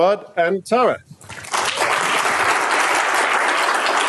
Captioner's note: applause